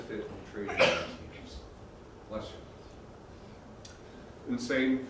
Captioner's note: cough